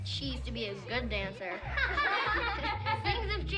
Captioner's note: laughter